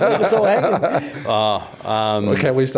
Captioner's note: all laugh